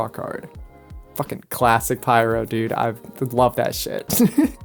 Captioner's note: laughs